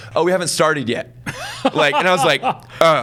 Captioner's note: laughs